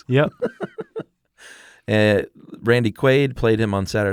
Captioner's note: laughs